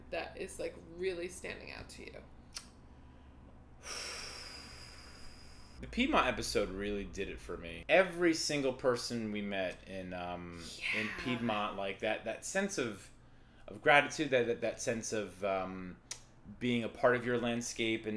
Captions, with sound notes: that it's like really standing out to you? (deep breath of contemplation) The Piedmont episode really did it for me. Every single person we met in- Yeah. -Piedmont, like that, that sense of- of gratitude, that that that sense of being a part of your landscape